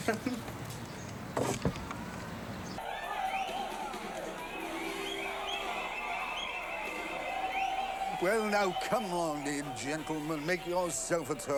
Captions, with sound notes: [ Laughs ] [ Audience whistling ] Well now come on then gentleman, make yourself at home.